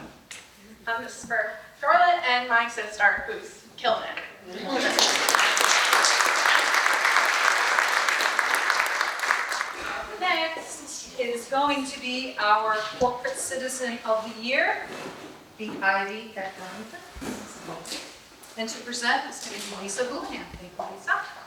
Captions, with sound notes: So this is for Charlotte and my sister who's killing it. (audience applauds) Up next. This is going to be our corporate citizen of the year, The Ivy of Ellington And to present is Lisa Houlihan, thank you Lisa.